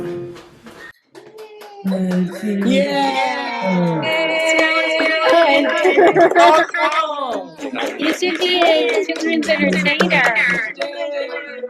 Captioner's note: applause